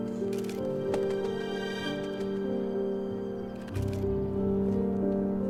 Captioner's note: wings flapping